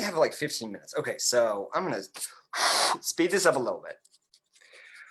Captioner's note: blows